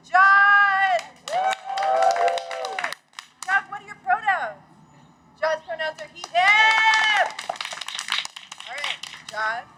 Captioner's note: cheers; cheers